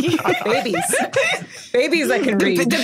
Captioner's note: group laughing